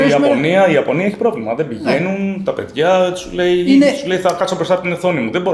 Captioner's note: laughs